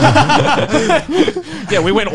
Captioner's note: laughing